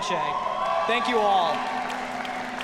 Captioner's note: audience cheering